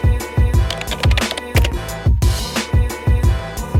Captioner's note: keyboard clacking; upbeat music